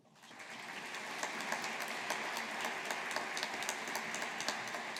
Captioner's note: audience applauding